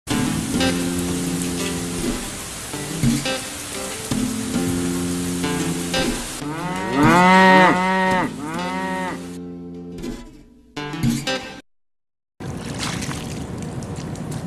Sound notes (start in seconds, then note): 0.0 music intro; 5.7 sound of cows and rain; 12.2 sounds of cows, and Rice Planting